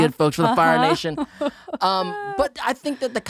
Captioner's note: laughing